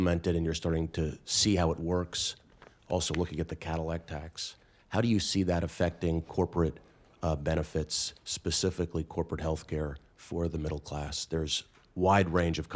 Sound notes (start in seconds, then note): none